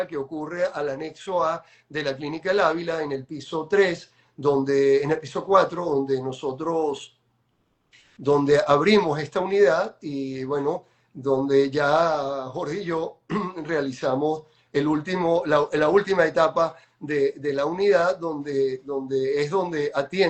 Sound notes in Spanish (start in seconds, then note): 13.2 carraspeo